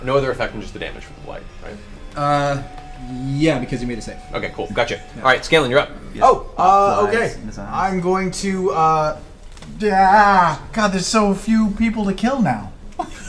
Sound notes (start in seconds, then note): 9.7 groans